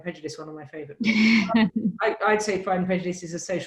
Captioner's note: laughs